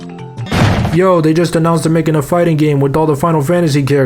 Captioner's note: door slamming